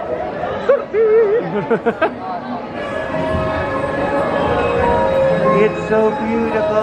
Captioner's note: laughing